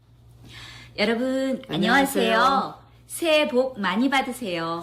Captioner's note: speaking Korean